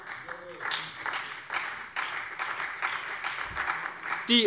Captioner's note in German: Beifall bei der SPD